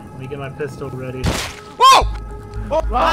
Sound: crunching flesh

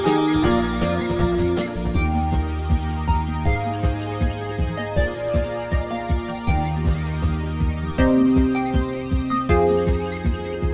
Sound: cheep, cheep

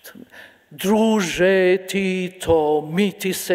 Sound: speaking in a foreign language

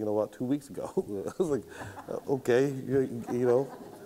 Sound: laughs

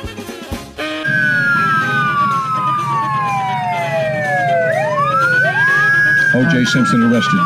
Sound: police Siren

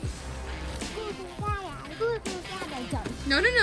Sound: baby noises

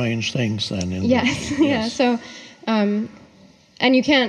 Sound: giggles

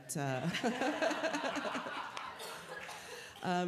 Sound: laughter

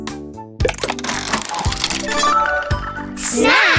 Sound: turning sound

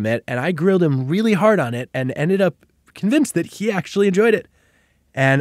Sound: none

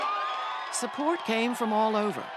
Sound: cheers and applause

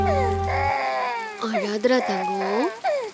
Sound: baby crying

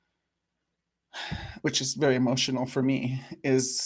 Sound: sighs

